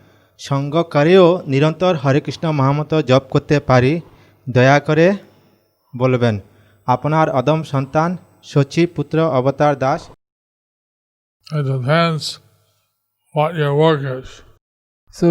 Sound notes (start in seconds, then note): 8.6 Bengali